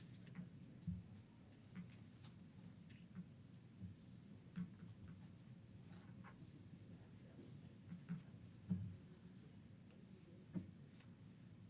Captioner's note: off mic